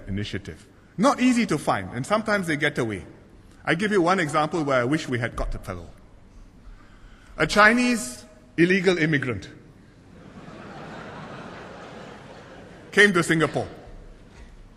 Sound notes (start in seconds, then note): 10.1 laughter